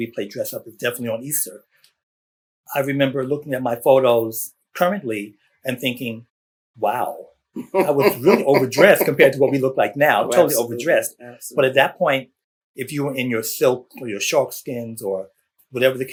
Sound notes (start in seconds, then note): 7.6 laughter